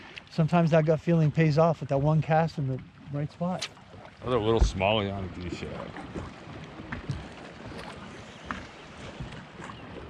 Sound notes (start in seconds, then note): 4.8 rod whipping; 8.8 fish splashing